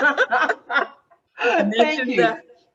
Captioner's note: laughing